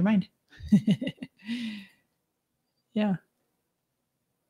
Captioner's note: laughs